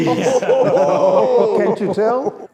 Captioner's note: laughing together